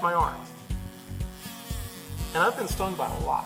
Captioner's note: wasp buzzing